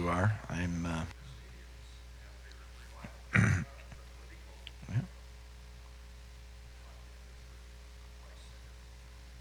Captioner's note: man speaking off mic